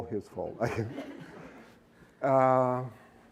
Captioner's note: laughter